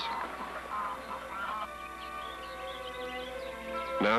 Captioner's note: cawing, Music